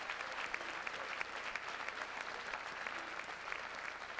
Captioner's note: applause